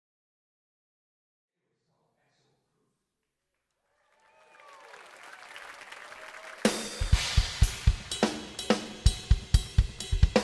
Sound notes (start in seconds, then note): 3.8 applause; 6.6 upbeat jazz music